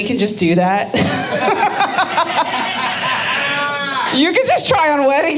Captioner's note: audience laughing